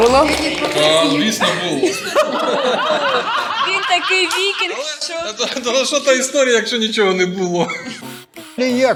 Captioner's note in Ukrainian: сміються